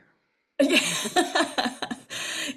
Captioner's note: laughs